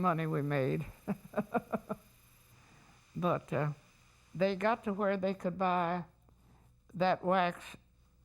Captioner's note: laughs